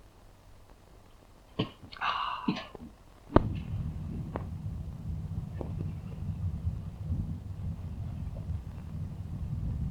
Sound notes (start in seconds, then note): 2.0 Greg coughing; 3.2 engine rumbling